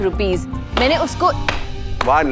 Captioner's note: Claping